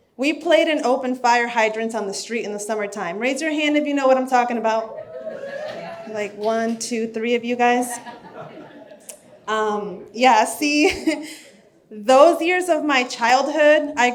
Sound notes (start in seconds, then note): 5.5 audience chattering; 7.8 audience laughs